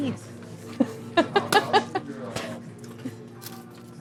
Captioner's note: chuckles